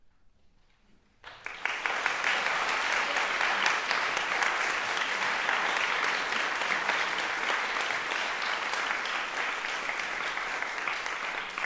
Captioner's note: applause